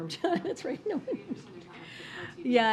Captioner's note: laughs